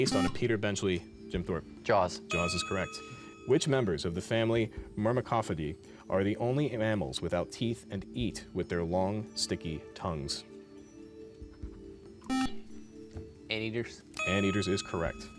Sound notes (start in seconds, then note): 12.3 beep; 15.1 intense male voice